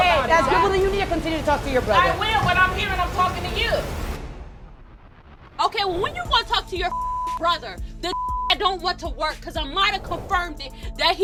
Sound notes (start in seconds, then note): 4.7 intense music; 6.7 beep